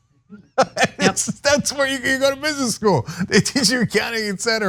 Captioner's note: laugh